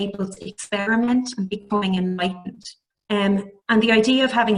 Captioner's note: audio distorts